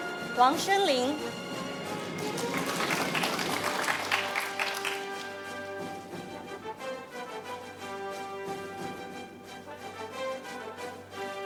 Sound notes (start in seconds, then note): 1.5 audience applauding; 5.6 orchestral music